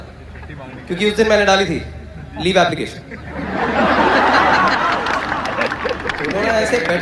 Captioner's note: hysterical Laughter and Clapping